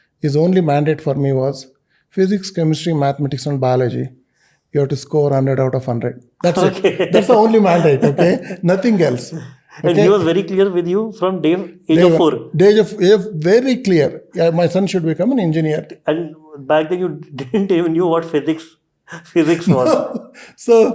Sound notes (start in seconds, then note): 9.0 chuckles